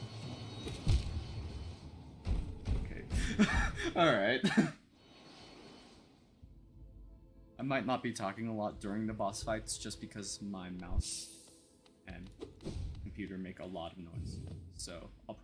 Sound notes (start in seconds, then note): 3.2 laughs; 3.2 laughs again